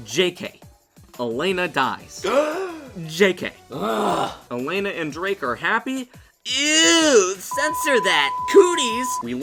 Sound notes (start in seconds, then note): 2.2 gasps with excitement; 3.7 groans with anger